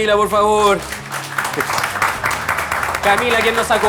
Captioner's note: applause